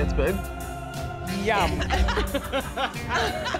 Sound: both laugh

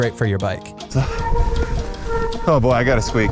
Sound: bike squeaks

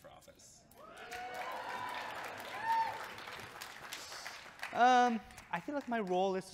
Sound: audience cheering and clapping

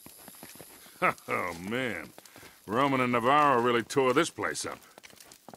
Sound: chuckles

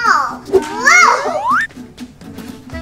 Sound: whistling; lively folk music

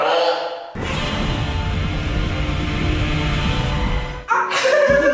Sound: Godzilla Roar

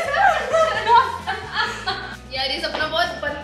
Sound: laughing

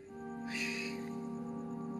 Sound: sighs

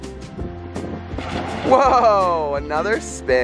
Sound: water splashing

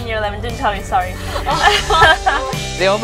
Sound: laughs

